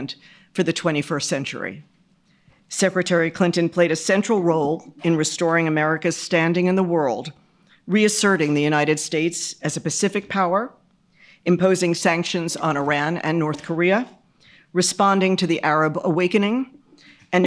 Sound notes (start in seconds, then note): none